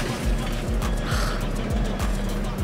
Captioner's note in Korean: 날숨